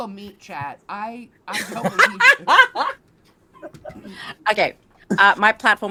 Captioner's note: all laughing